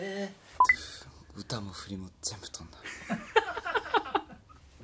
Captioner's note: laughs